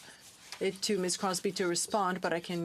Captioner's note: speaking French